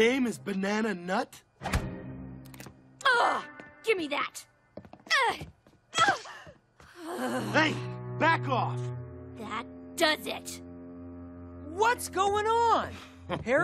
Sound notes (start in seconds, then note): 5.3 grunting